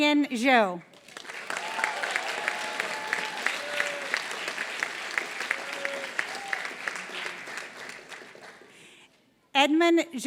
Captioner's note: applause